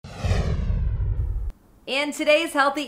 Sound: swoosh

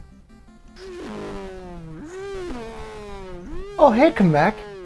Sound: airplane noises

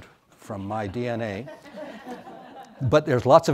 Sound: audience laughs

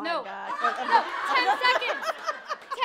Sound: laughing

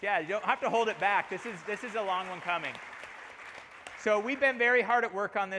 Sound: applause

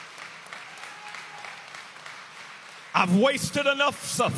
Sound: inmates applaud

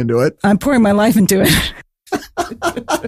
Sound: laughing

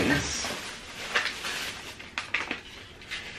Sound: plastic crinkling

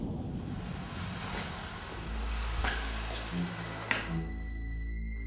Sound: ominous music; scraping

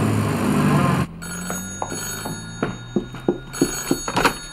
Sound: phone rings

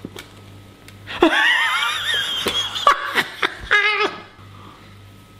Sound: laughing

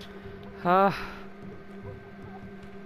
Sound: sigh of relief

